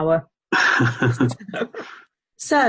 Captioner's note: laughs